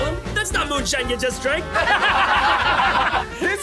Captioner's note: laughter